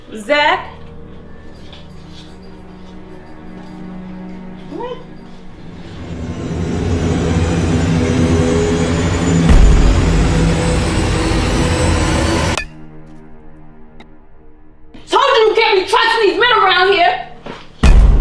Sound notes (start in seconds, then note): 6.5 menacing music; 12.5 metal tap